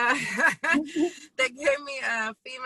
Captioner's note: laughs